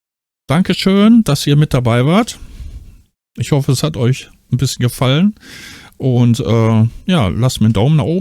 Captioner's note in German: japst